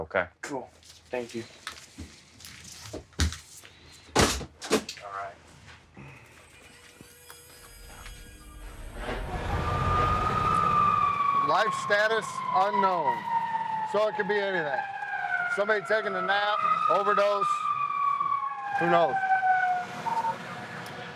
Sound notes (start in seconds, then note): 9.6 siren